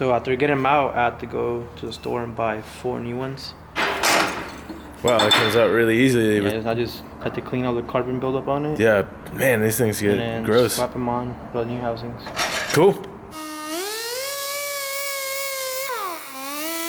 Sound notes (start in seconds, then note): 13.3 tool hums